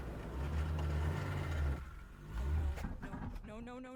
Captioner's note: engine sputtering